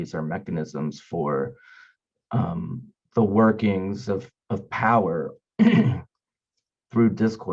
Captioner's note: clears throat